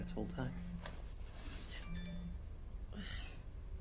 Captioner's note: suonerie del cellulare